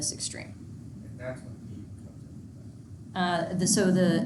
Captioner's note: speaking faintly